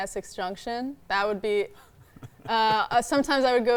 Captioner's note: laughing